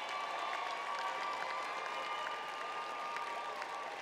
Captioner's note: applause